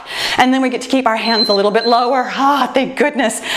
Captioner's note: timer beeps